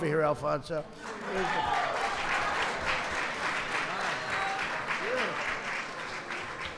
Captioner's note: applause